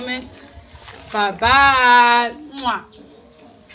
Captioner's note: kisses